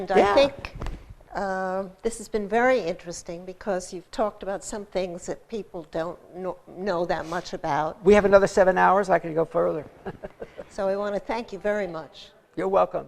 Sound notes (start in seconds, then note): 9.9 laughter